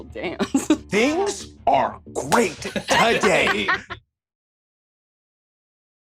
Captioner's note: laughs